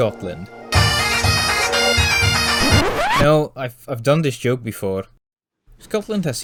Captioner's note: bagpipe music; record scratch